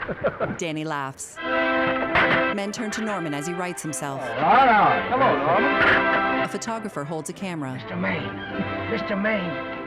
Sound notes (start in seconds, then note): 0.0 Danny chuckling; 3.5 Norman, slurred; 7.0 Otto whispering